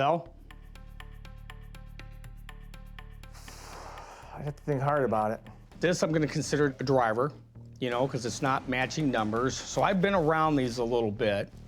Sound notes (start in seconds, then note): 0.1 tense music; 3.4 sigh